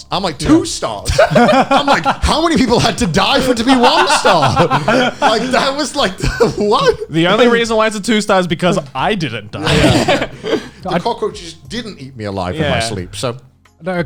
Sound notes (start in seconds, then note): 4.4 laughing